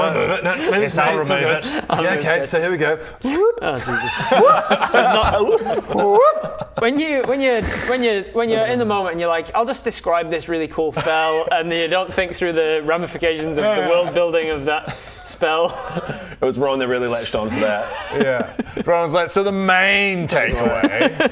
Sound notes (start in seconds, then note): 5.7 awoop!